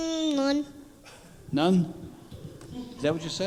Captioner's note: humming